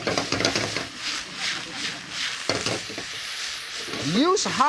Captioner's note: crowd laughs